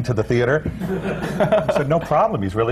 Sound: laughter

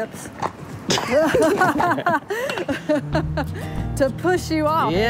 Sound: laughing

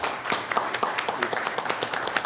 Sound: applause

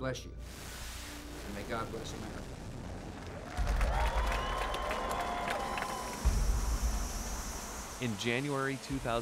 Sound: cheers and applause

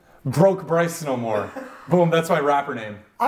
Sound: chuckles

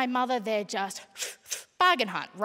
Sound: imitating smoking

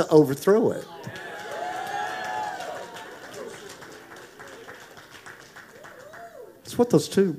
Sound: congregation applauding

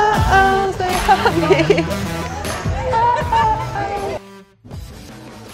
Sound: girls laughing

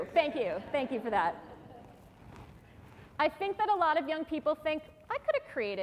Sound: laughter

